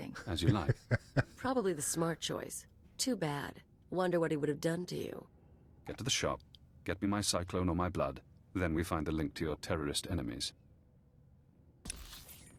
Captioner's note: chuckles